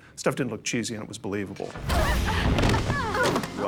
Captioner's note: all grunting